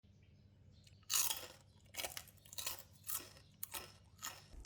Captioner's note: crunch